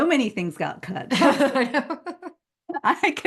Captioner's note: laughing